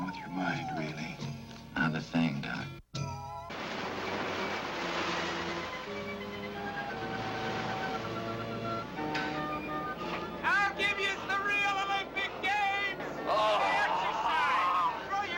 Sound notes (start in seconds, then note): 3.5 waves splashing; 4.3 soft music